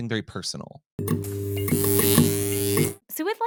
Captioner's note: buzzing